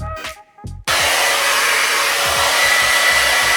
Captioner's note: blow dryer noise